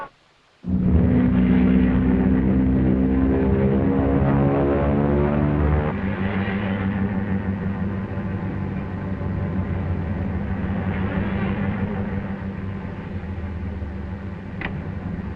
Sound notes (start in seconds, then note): 1.2 plane droning